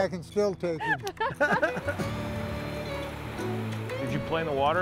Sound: laughing

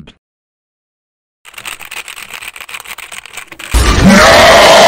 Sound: aggressive typing noises

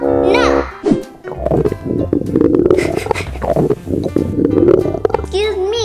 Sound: grumbling

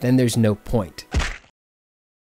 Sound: bone-crunching sound; dread silence

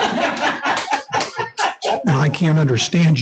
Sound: everyone laughs

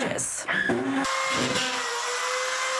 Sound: NATS: drill

